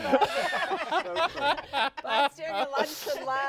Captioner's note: all laughing